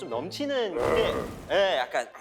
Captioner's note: grrrooowwwls